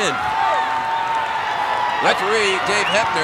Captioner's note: audience cheering